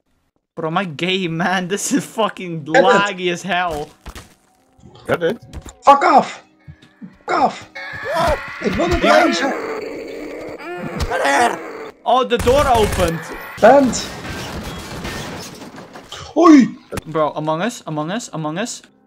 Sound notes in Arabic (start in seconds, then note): 8.0 يصرخ